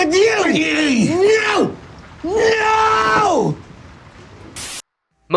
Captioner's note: screaming